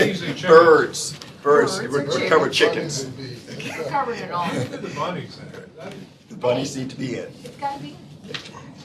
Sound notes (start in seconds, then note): 4.4 laughter